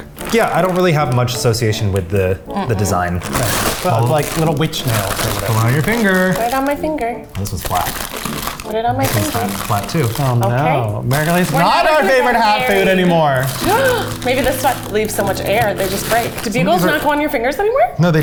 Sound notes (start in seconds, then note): 13.6 gasps